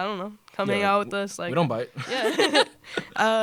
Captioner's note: laughter